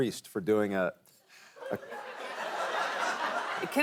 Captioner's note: laughter